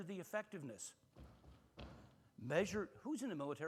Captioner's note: heavy foot stomp thudding